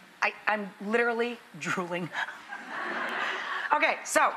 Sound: audience laughs

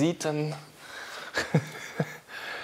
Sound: he laughs

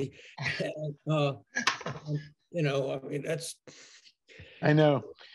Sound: laughs

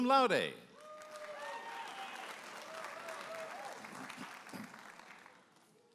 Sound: audience applauding and cheering

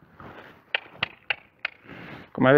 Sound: cluck

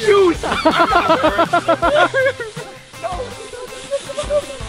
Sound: screaming and laughing

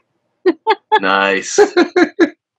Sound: chuckles

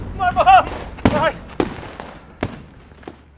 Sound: fire works going off

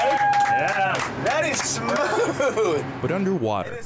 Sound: cheers and claps; laughs

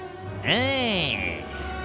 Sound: mocking

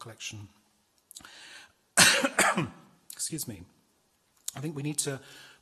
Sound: coughs

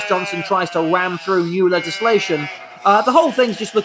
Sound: sheep baa'ing

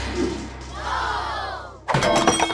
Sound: crowd gasping

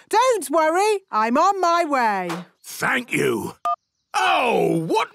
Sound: none

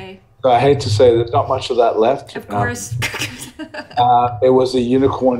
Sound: laughs

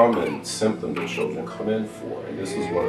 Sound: crying

